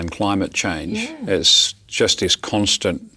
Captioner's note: voiceover